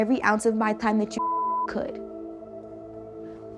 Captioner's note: beep